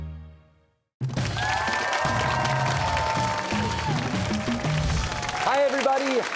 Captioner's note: cheers and applause